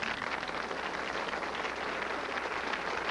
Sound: applause

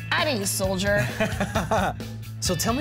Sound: laughing

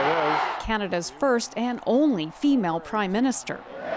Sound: cheers and Applause

